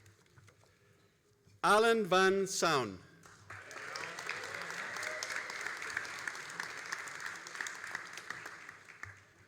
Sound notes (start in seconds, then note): 3.2 all applauding